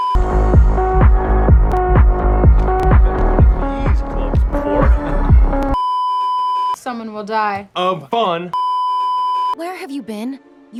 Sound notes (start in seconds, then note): 5.8 beeeeeeeeeeeep; 8.6 beeeeeeeeeeeep